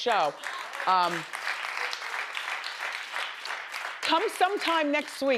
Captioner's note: audience applauds